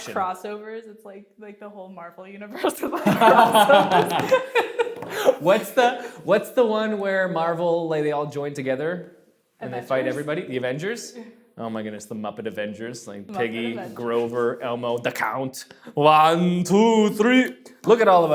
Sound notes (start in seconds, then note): 2.9 laughs